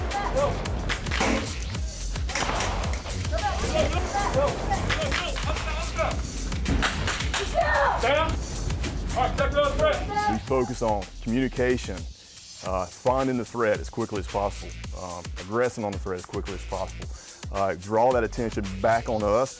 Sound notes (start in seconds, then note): 0.0 gun shots; 3.9 police yelling